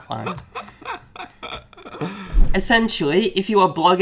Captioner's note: laughs